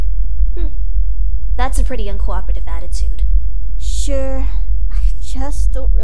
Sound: none

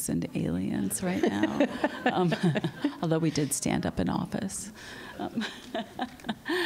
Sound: laughter

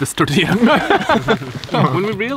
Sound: all laugh

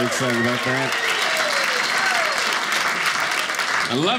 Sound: audience cheering

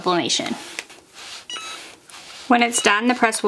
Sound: hat press beeps

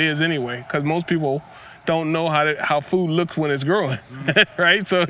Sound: laughs

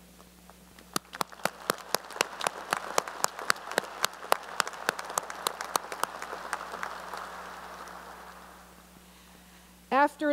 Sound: applause

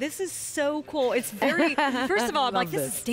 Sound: laughter

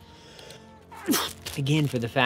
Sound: achoo

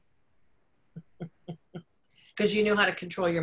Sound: laughs

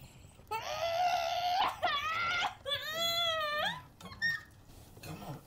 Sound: Lilith loudly groans

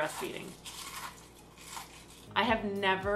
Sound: crunching food

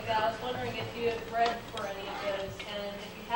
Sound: none

